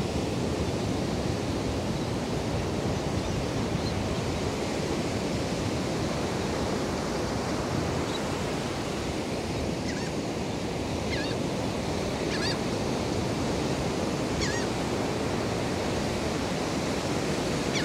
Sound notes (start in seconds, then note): 11.6 laughing Gull calling